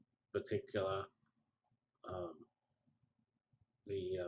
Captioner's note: pause